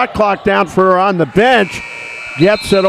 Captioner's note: buzzer sounds